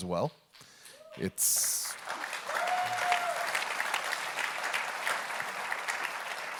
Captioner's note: audience clapping; audience cheering